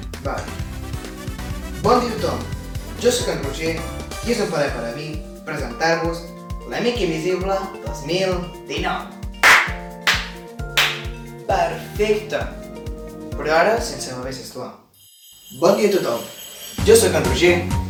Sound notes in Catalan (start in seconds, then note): 10.8 aplaudiments